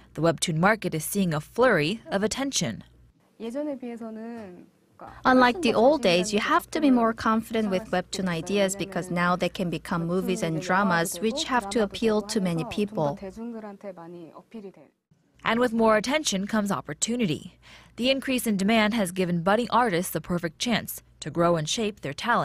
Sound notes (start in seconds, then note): 3.9 korean